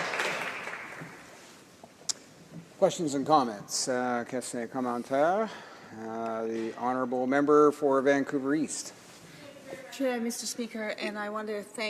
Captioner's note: applause